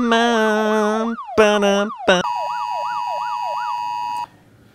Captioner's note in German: Alarmsignal